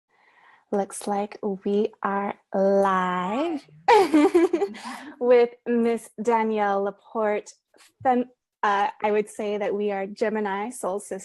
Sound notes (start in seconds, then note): 3.9 giggles